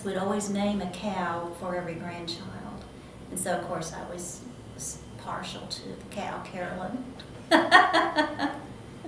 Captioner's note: laughs